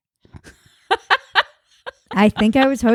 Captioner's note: laughing